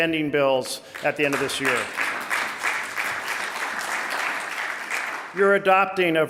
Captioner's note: audience applauding